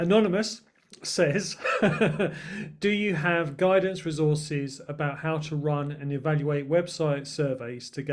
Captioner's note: laughter